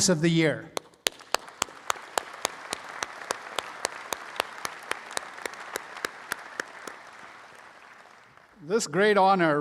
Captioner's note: all applauding